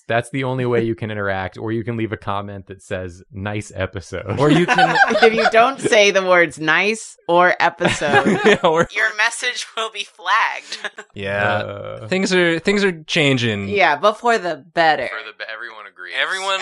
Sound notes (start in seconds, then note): 4.2 laughter